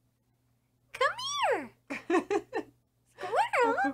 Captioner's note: laughs